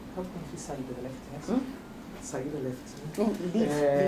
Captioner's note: speaking portuguese